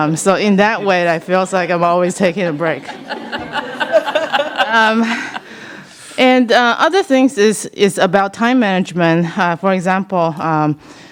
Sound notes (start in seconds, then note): 2.6 laughter